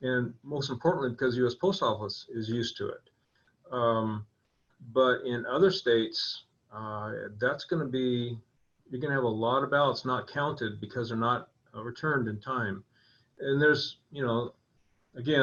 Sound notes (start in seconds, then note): none